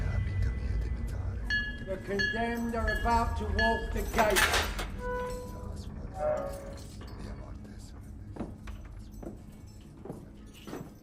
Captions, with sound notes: [William speaks in tongues] - The condemned are about to walk the gates. [gate squeaks] [William speaks in tongues]